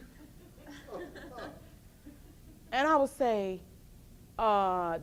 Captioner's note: audience laughs